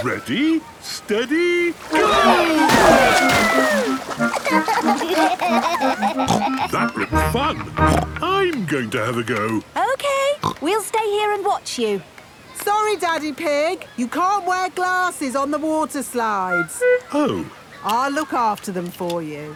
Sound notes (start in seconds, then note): 3.9 giggling; 4.7 snorts